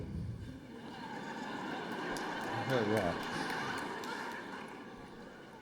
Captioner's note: laughter